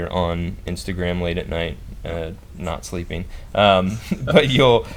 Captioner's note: laughs